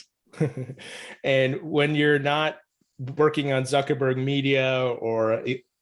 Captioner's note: chuckles